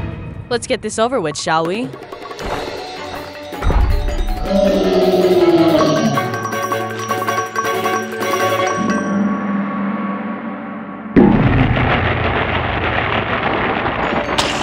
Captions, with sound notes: Let's get this over with, shall we? (suspenseful music) (footsteps pattering) (Puto Monster growling) (playful music) (Puto Monster thuds)